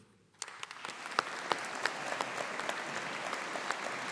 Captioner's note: audience applauding